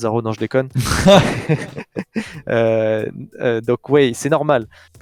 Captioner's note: laughs